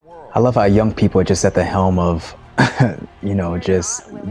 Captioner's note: chuckles